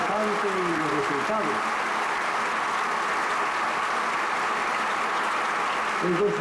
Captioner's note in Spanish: aplausos